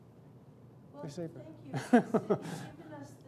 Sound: laughs

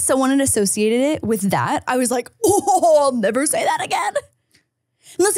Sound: laughs

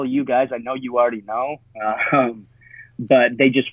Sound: chuckles

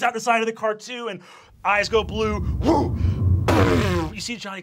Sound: whooshes; bangs; shouts

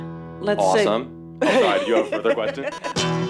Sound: laughs

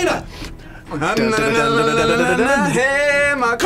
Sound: both humming

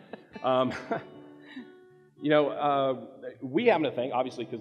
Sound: laughs

